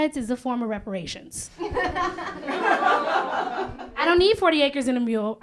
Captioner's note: laughter